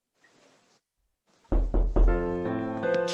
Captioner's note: knock